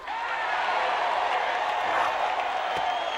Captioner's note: crowd cheering